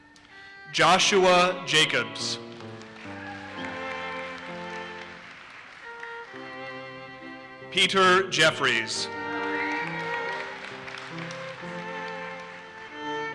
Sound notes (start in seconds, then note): 2.5 audience cheers and applauses; 9.3 audience cheers and applauses